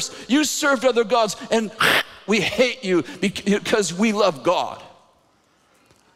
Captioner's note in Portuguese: cuspiam